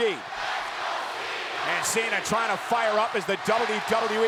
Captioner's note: crowd chants "Let's go Cena/Cena sucks"